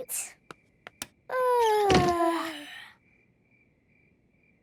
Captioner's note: light clicks; both yawning